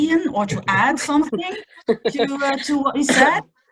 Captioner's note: laughing